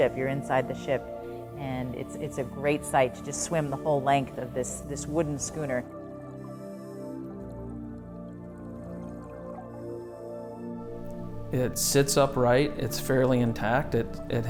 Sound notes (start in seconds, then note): 7.3 water gurgling